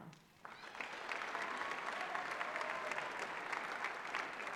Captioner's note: applause